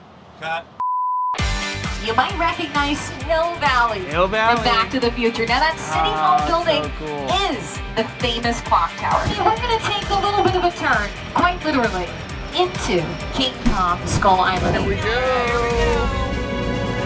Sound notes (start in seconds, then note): 0.9 production screen beeps; 1.8 lively music; 16.8 dramatic music